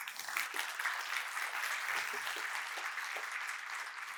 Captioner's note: audience applauding